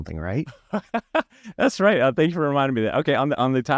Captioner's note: laughs